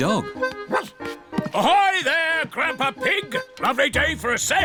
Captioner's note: barks